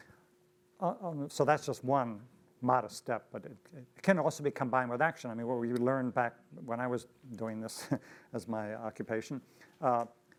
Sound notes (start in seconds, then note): 7.9 laughs